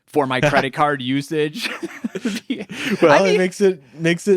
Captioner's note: laughing